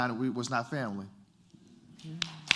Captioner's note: applause